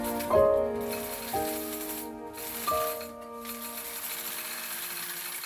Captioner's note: inspirational music; sowing machine whirring